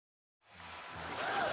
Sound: audience cheering

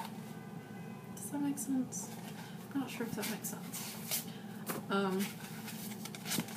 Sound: car horn in background

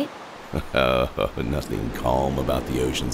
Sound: chuckles

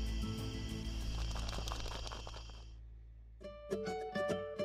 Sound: sound of wings flapping

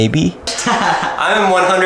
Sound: laughs

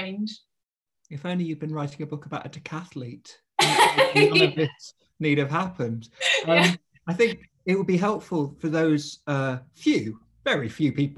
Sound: laughs

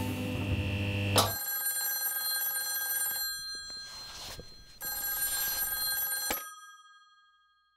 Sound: phone ringing

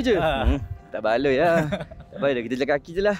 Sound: laugh

